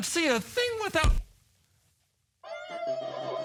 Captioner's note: thud